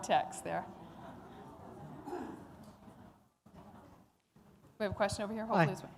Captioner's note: laughter